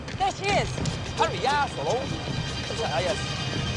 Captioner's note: speaking chinese